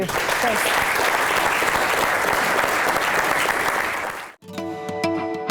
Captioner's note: applause